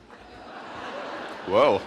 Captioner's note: audience laughing